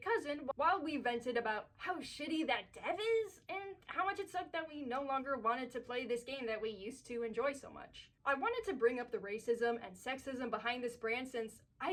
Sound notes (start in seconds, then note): none